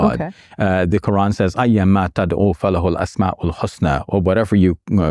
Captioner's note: speaking Arabic